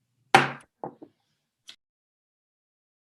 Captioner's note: gavel taps